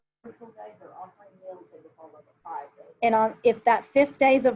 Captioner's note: murmurs